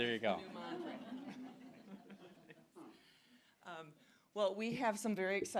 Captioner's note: audience laughing